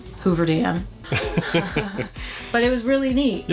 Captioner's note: chuckles